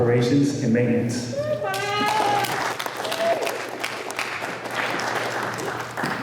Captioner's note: applause